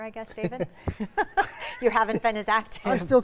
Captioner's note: laughing